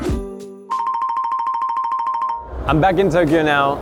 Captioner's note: relaxing music continues; bell chimes